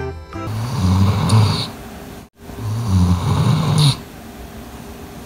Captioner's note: dog snoring sound